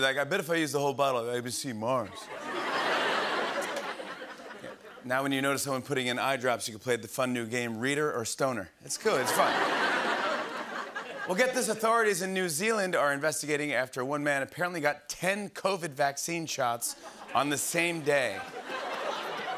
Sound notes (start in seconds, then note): 2.1 laughter; 9.0 laughter